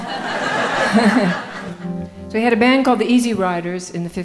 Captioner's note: laughing